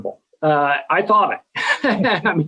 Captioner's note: both laugh